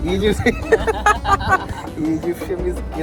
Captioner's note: laughter